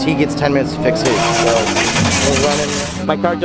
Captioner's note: engine turns over